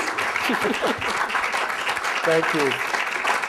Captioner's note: laughter